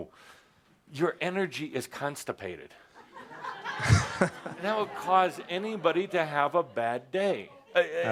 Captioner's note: laughter